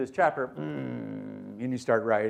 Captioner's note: clearing throat